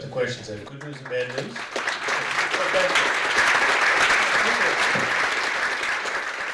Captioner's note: audience clapping